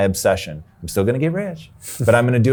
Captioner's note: chuckles